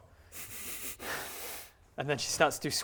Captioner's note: nervous snickering